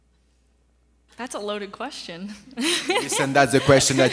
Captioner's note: laughs